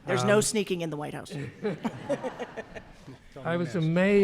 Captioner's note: laughs